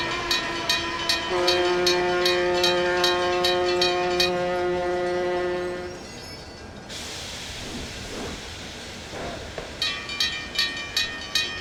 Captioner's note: railroad crossing ringing; PRR S1 airhorn